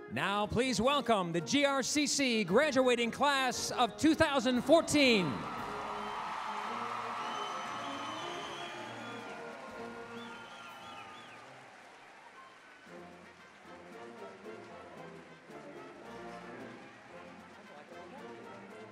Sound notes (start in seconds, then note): 5.7 applause, cheering